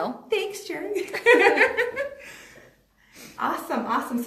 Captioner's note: laughing